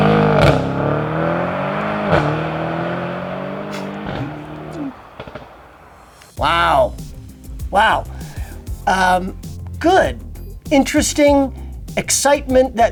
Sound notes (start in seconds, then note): 3.6 chuckles